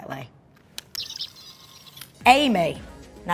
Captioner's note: electricity buzzing